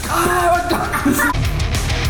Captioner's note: short Boop